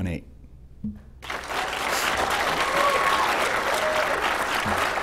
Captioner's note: applause